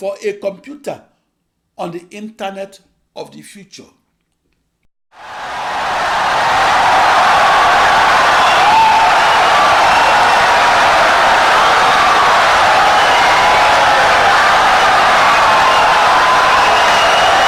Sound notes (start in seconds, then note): 6.7 wild applause and cheering for 17 seconds